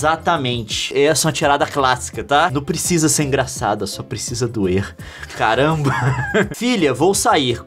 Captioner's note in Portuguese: risada